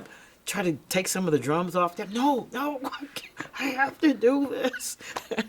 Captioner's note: laughs